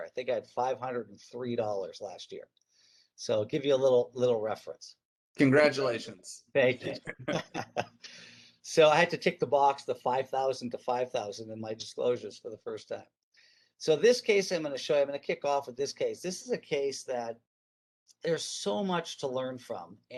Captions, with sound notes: I think I had $503 last year. So give you a little reference. - Congratulations. - Thank you. (laughing) So I had to tick the box, the 5,000 to 5,000 in my disclosures for the first time. So this case, I'm gonna show you, I'm gonna kickoff of this case, this is a case that there's so much to learn from